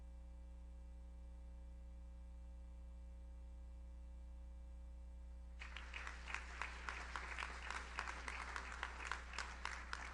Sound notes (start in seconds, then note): 5.6 audience applauds